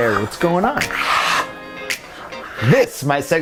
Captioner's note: exhaling deeply